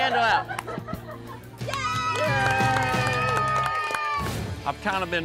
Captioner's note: blows